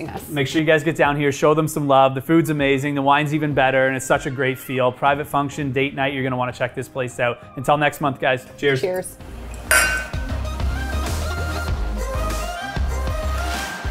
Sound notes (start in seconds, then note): 9.4 glasses clinking; 11.1 upbeat music